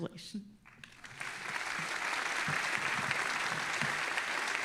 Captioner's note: all applauding